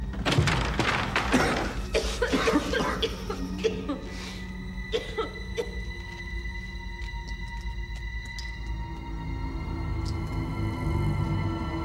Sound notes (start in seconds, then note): 0.1 lid thudding; 1.8 both coughing; 4.0 soft tense orchestral music